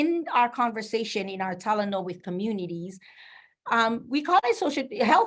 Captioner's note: speaking in foreign language